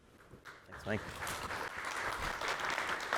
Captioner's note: applause